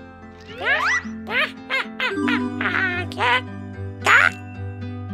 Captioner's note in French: rire